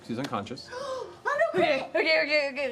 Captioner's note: gasps